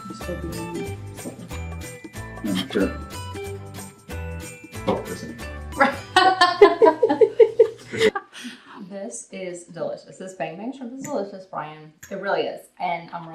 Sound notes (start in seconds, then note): 5.8 all Laugh